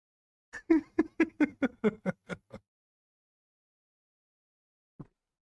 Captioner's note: Ketawa